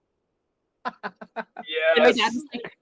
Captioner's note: laughing